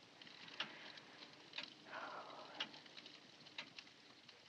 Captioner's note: sighs